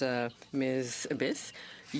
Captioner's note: speaking in french